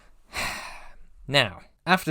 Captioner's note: sigh